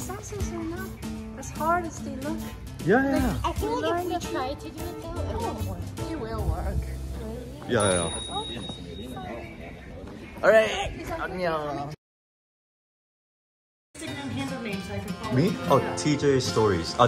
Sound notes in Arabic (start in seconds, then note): none